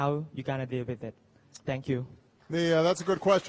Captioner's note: applause